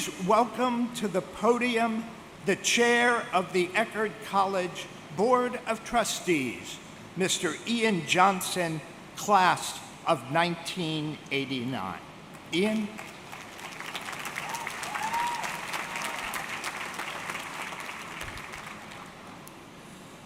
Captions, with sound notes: Please welcome to the podium, the chair of the Eckerd College Board of Trustees, Mr. Ian Johnson, class of 1989, Ian. (audience clapping)